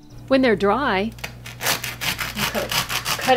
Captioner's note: crunch, crunch, crunch